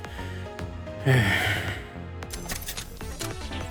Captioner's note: sigh